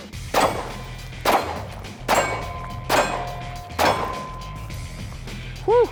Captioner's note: gunshots